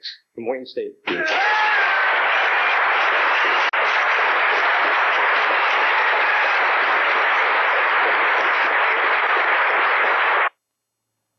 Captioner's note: cheering and applause